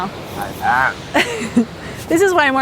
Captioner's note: laughs